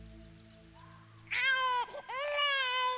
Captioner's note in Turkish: Bebek ağlıyor